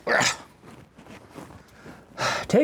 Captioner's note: grunts